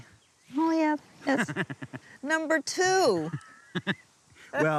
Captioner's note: laughing